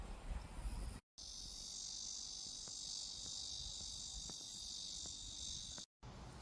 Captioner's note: a cicada hell among the grass